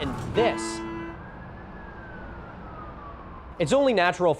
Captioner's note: siren wailing in the distance